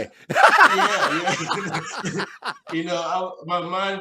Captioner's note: laughs